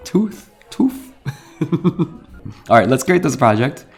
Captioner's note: laughs